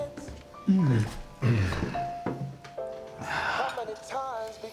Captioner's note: Florio exhales and moans in pleasure; Jesse and Florio exhale